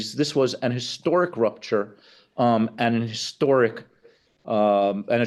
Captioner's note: none